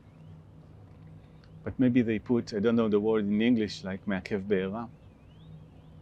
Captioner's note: hebrew